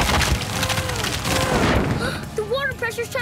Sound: gasping

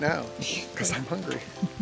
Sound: laughs

